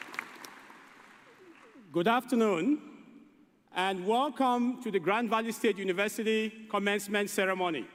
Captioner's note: applause